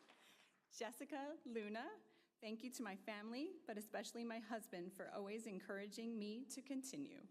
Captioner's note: applause